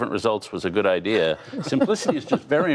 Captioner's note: laughter